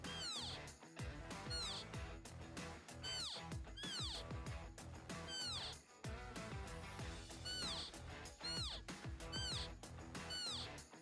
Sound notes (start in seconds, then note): 0.5 elk call; 9.1 elk call